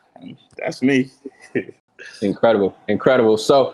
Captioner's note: laughing